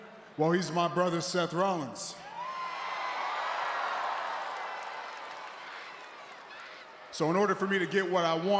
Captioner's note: applause